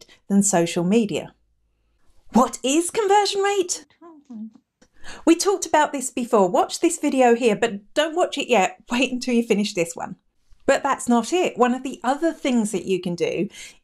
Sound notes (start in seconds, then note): 4.0 murmurs